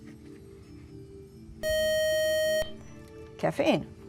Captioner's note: loud buzzer